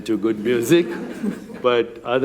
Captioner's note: chuckling